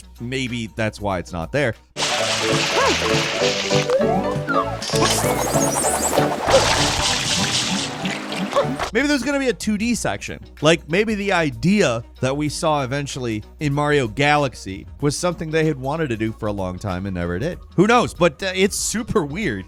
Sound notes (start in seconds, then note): 1.9 water splashing; 2.0 upbeat music